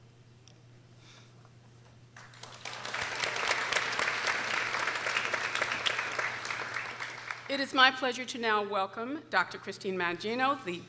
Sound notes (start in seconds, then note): 2.1 people applauding